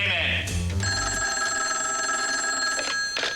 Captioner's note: telephone rings